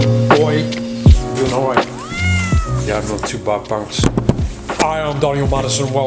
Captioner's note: cat softly meows